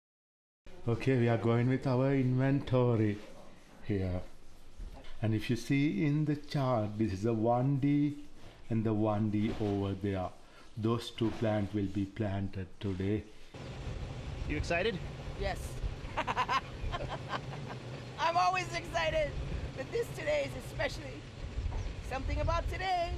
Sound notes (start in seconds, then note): 16.0 laughing